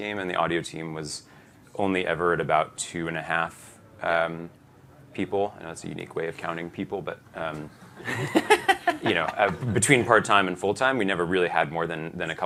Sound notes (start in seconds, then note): 7.8 laughter